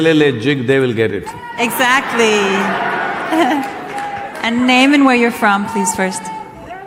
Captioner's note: applause